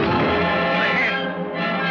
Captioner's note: thud